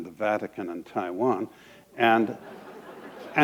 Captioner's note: laughter